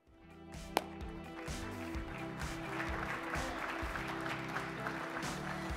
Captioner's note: instrumental music; audience applauding